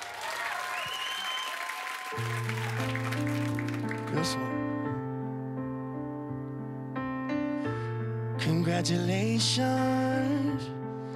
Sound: cheers and applause

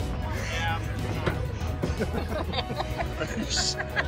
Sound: laughing

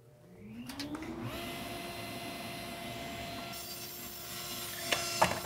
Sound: saw whirring

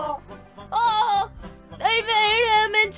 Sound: Untangible sounds of Ralsei sobbing

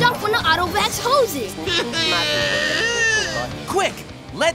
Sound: sobbing

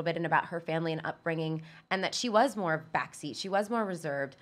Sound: none

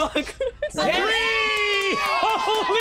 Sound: cheering

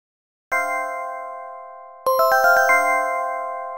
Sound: chimes

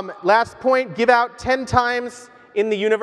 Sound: none

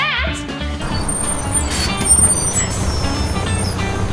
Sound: tires screeching

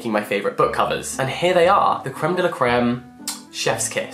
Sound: kissing sound

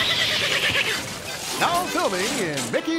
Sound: distant Donald upset quacking; background wooden crashing

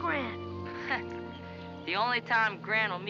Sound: scoffs

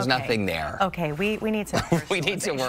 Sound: laughter

